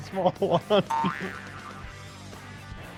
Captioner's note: laughs